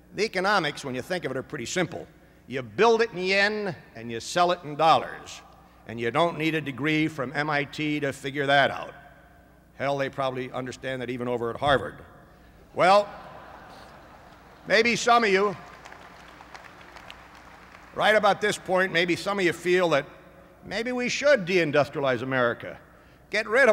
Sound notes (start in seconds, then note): 13.1 laughter; 15.5 applause